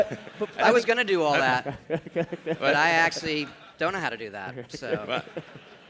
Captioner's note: laughter